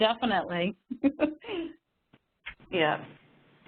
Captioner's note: laughter